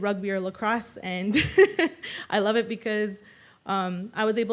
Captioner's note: laughs